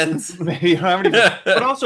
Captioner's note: laughs